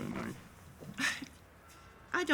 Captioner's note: scoffs